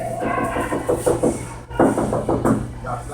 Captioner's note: knocking